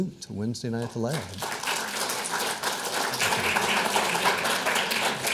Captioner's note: audience applauds